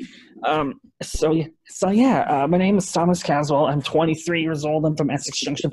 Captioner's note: speaking away from microphone